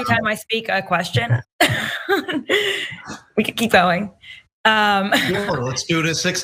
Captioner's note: laugh